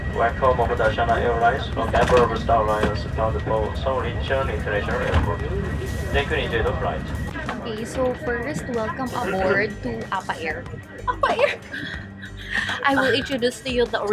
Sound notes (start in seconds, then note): 11.0 laughs